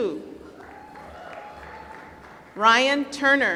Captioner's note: applause